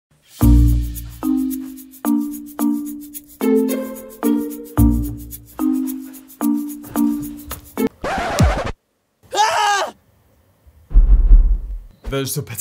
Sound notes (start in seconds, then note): 0.4 upbeat music; 7.9 record scratching